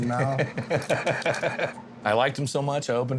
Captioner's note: laughing